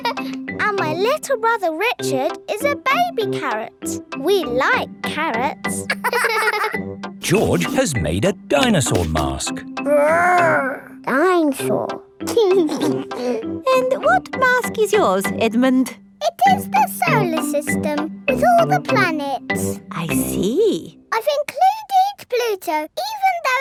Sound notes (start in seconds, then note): 0.0 giggles; 5.8 both laughing; 12.7 giggles